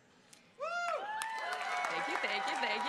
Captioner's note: crowd cheering